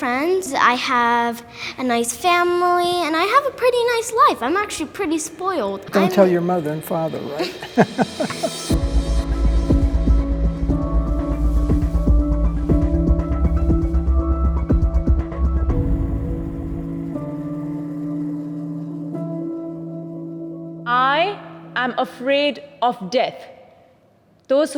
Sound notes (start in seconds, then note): 7.4 laughs; 8.3 suspenseful music